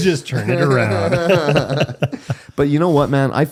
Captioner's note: laughing